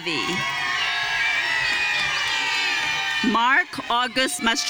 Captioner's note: audience cheering